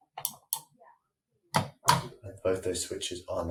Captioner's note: switch clicking